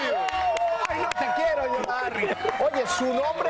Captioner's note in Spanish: gritos